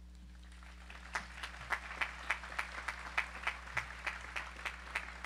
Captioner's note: audience applauding